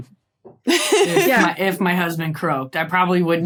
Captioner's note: laughs